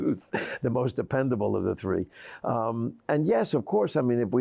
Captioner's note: chuckles